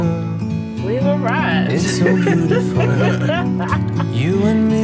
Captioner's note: laughs